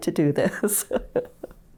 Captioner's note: laughs